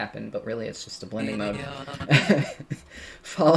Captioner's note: laughs